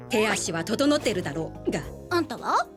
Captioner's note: boink!